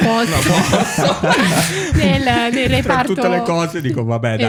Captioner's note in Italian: laughter